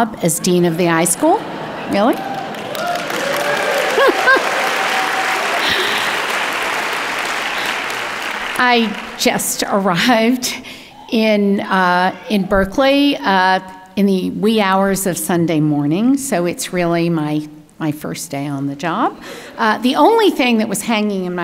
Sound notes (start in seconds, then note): 2.9 audience clapping; 2.9 laughing